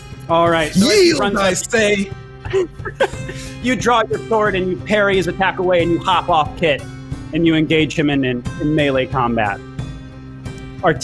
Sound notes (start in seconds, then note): 2.4 laughs